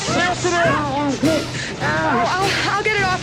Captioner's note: muffled yells